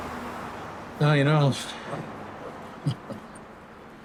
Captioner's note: chuckles